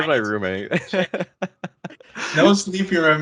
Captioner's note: laughs